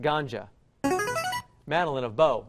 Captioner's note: chiming